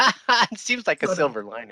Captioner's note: laughing